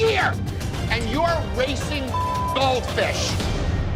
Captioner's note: beep